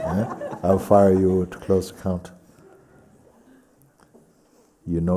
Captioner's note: laughter